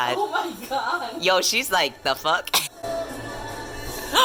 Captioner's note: laughs